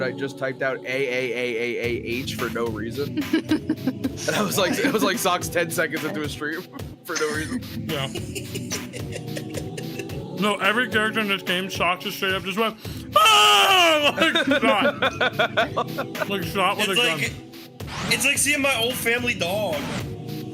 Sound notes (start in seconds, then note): 3.1 laughs; 7.9 laughs; 13.1 yells; 13.2 laughs